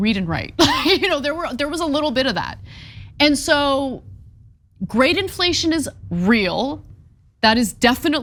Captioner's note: laugh